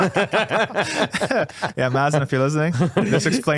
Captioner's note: laughing